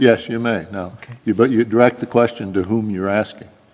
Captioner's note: voiceover